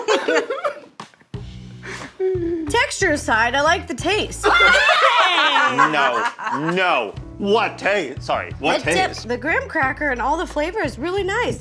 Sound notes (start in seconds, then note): 0.0 Zach and Keith laughing; 4.8 Zach laughing